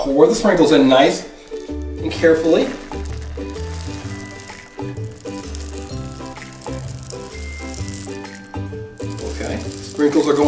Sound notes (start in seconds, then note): 4.2 sprinkles clattering